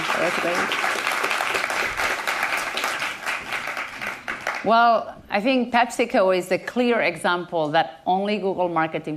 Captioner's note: applause